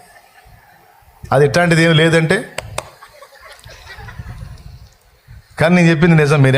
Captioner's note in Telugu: నవ్వు